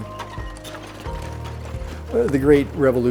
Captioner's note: horse carriage creeks